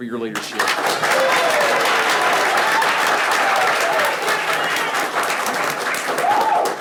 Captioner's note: people clapping; people cheering